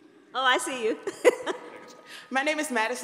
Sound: laughs

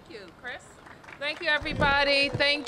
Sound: applause

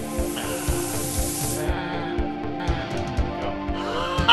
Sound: gas hissing

